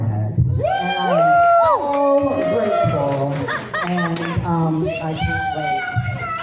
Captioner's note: cheering